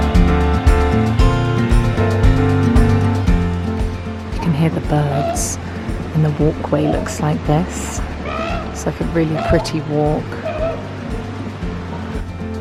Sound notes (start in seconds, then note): 6.1 birds caw